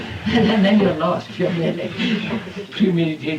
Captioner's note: laughter